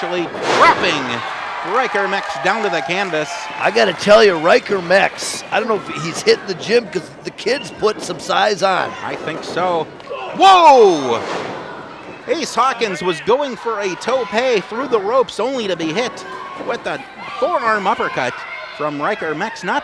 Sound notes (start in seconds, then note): 3.3 audience cheers; 10.0 groaning